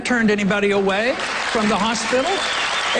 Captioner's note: applause